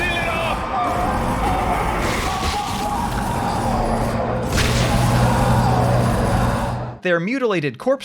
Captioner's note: screams, groans, sounds of monsters rending human flesh